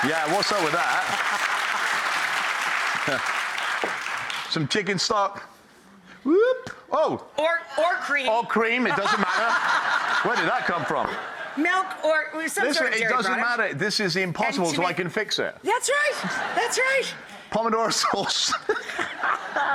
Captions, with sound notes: Yeah, what's up with that? (audience cheers) Some chicken stock. Whoop, oh! Or cream. Or cream, it doesn't matter. (audience laughs) Where did that come from? Milk or some sort of dairy product. Listen, it doesn't matter. This is the impossible so I can fix it. That's right! That's right! Pomodoro sauce (laughs).